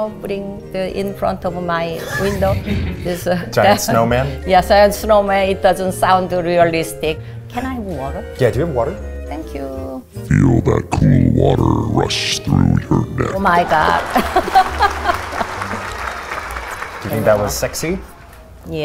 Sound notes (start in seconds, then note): 13.6 audience claps; 16.0 laughs